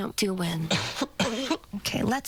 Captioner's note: coughs